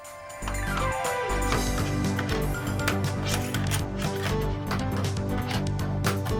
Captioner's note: lively retro music; soldering iron tapping